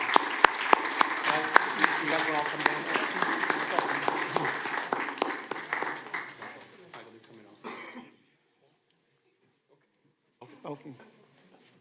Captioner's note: applause